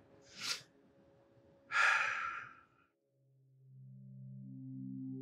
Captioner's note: sighs; soft, slow music